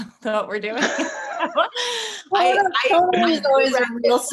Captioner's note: all laughing